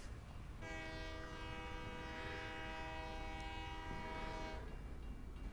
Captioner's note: horn continues outside; crossing bells ding